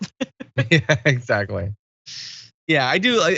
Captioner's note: laugh